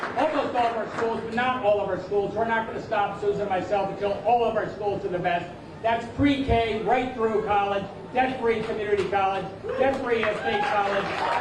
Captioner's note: applause